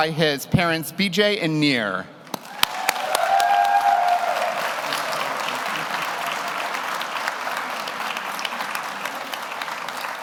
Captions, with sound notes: being pinned by his parents, BJ and Nier. (audience cheers) (audience applauds)